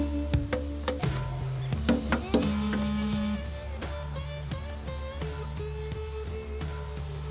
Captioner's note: thumping sounds; cell phone vibrates